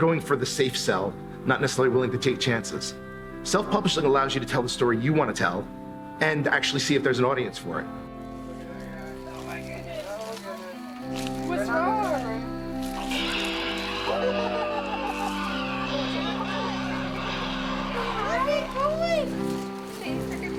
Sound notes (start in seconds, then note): 8.1 soft music plays; 12.3 laughter; 12.8 skeleton screams